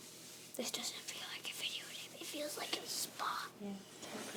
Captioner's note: whispering